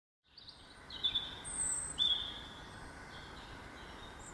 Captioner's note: birdsong